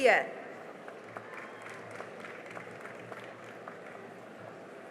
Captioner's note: cheering and applause